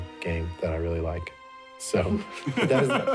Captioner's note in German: Gelächter